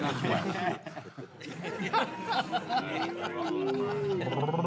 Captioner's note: actors laughing